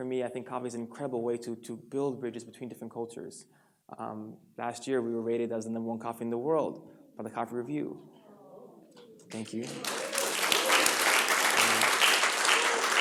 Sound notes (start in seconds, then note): 9.2 audience applauds; 9.2 audience responds